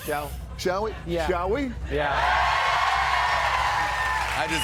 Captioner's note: cheers and applause